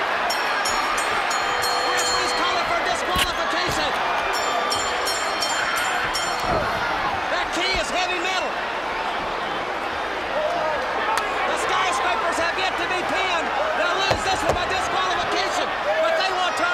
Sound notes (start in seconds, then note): 0.2 bell ringing; 1.9 crowd chatter; 4.9 bell ringing; 9.0 crowd chatter